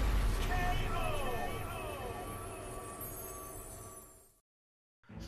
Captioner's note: voice echoing